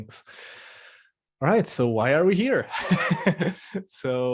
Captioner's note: laughs